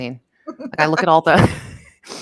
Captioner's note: laughs